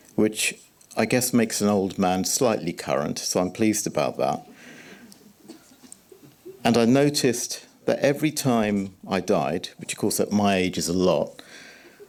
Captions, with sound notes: Which I guess makes an old man slightly current. So, I'm pleased about that. [chuckle] I noticed that every time I died, which, of course, at my age is a lot,